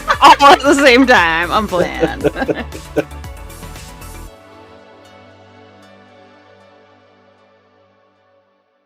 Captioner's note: laughter